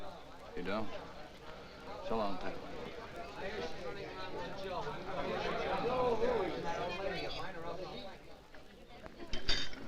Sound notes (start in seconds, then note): 5.2 all chattering